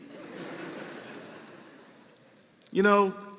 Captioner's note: laughter